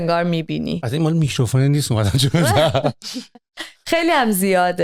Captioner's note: laughter